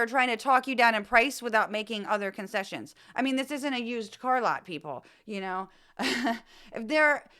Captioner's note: laugh